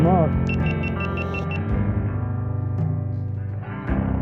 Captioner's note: camera beeps